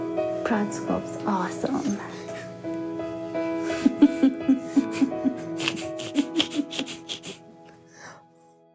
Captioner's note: laughs